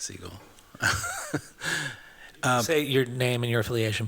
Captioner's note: chuckles